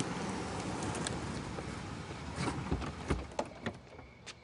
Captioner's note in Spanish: Ruido de un vehículo